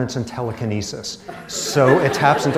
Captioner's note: laughter